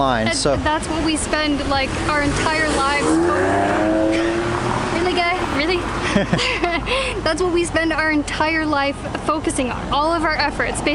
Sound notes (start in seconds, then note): 5.3 laughs